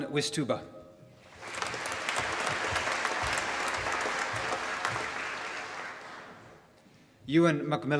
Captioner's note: applause